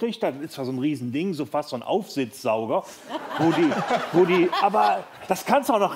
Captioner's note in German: Lachen